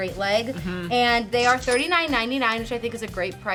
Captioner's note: cash register dinging